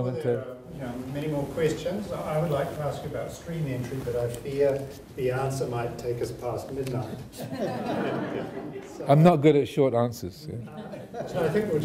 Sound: audience laughing

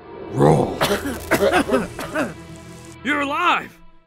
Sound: Roll coughing

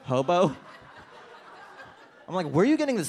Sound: audience laughs

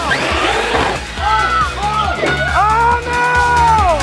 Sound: concerned shouting

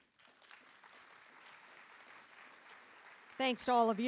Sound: audience applauding

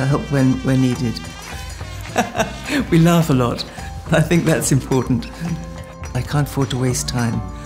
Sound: laughing

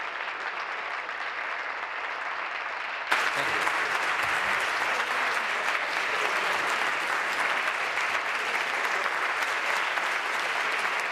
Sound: applause

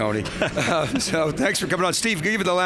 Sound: laughs

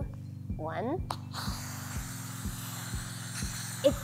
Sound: air hisses slowly

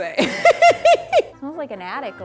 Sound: laughing

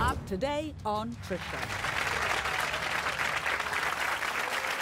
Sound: audience applause

